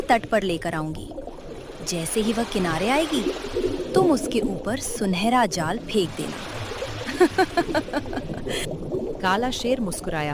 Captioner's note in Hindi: हंसी